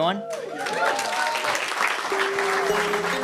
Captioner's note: cheering and applause